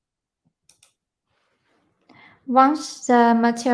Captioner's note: mouse clicking